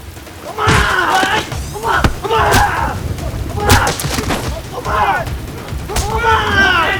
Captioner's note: fists and feet bashing; Ramsay vocalizing